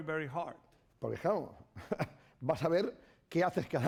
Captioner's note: speaking spanish